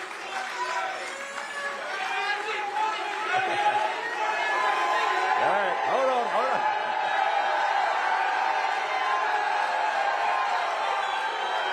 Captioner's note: cheers and applause